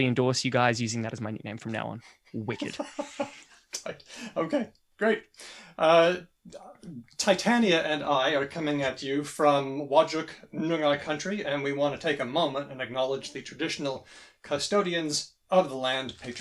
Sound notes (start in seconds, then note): 2.4 laughs